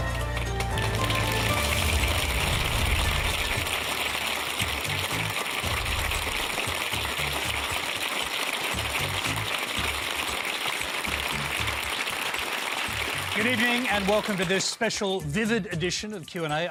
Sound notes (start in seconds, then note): 0.7 applause